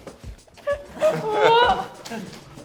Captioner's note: laughter